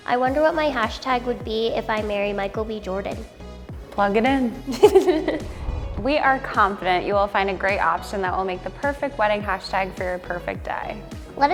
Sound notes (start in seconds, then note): 4.6 laughing